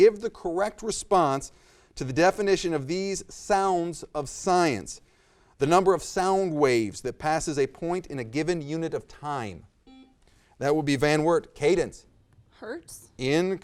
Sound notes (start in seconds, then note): 10.2 buzzer